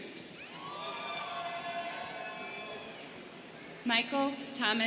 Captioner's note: students cheering